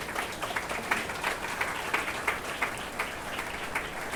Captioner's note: attendees applauding